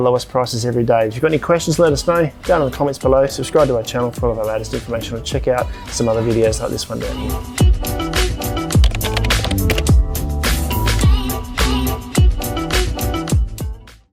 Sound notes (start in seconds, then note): 7.5 upbeat music; 8.8 keyboard clutter